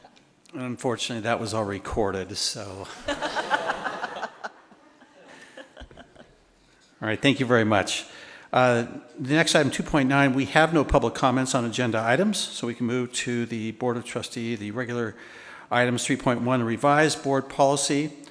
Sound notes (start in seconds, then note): 2.8 attendees laughing